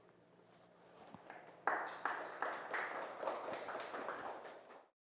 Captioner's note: applause